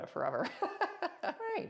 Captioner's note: laughs